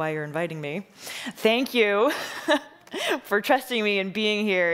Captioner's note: laughing